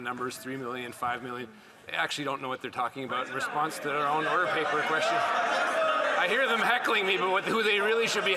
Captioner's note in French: voix de l'interprète